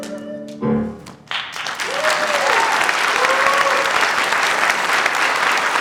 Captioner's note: audience applauds